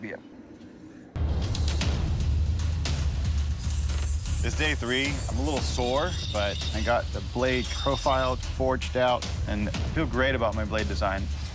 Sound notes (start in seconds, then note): 2.5 whirring